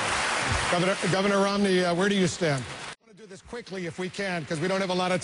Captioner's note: applause